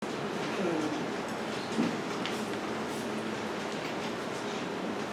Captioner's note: air conditioner whirring